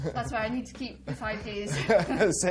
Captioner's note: laughs